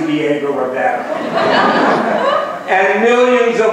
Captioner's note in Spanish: laughs